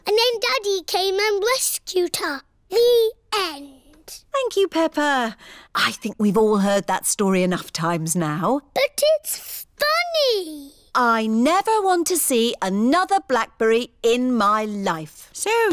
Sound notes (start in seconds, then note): none